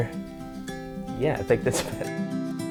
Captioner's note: laughing